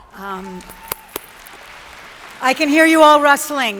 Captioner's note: audience applauds